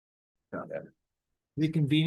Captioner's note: attendee chattering